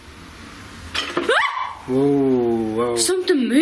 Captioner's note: shouts